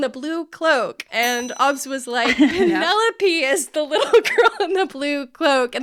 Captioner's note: bell ringing